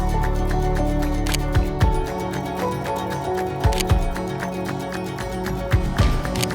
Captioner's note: upbeat music; camera clicking